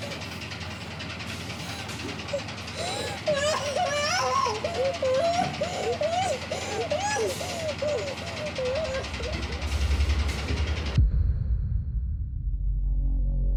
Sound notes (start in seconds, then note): 2.2 Abby sobs; 11.3 soft musical score; 12.4 ominous music